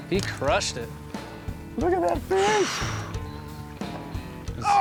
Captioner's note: sighs